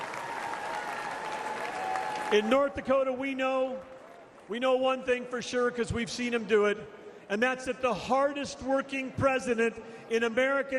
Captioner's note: applause